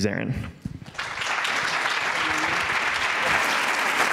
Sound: applause

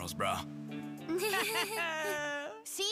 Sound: chuckling nervously

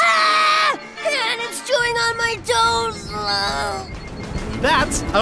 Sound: groan

